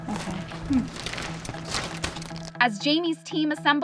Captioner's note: plastic crackling